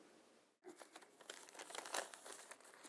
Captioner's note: papers rustling